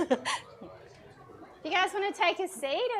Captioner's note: laughs